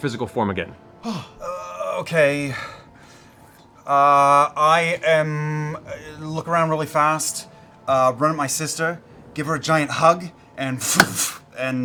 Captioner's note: magic sound